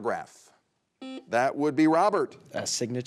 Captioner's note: buzzer buzzes